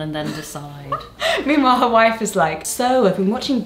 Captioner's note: laughs